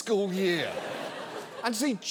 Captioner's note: studio audience laughs